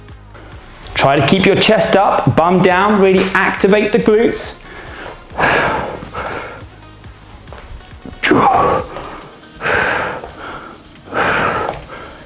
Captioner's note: sighs and panting